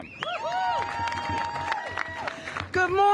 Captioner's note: cheers and applause